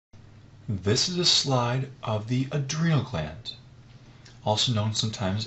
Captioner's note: voiceover